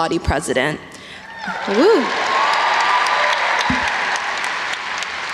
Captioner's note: audience cheers